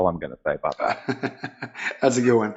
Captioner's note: chuckling